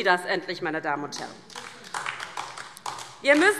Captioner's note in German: Beifall DIE LINKE